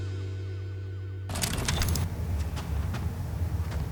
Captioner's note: whirs